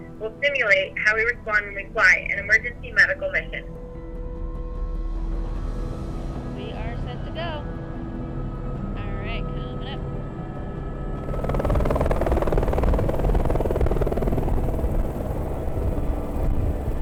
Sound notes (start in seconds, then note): 3.7 lighthearted music; 11.2 helicopter blades whirring